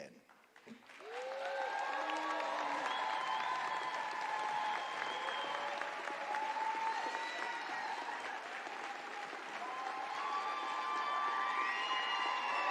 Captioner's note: applause